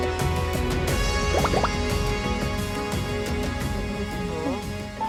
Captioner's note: heart beating